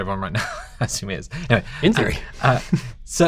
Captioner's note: laughs